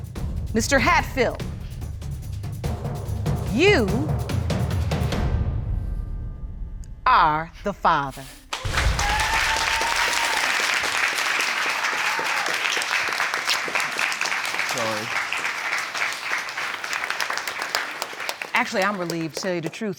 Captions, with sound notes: Mr. Hatfill, you... Are the father. (CHEERING AND APPLAUSE) I'm sorry. Actually, I'm relieved, to tell you the truth.